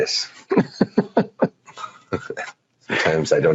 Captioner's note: laughing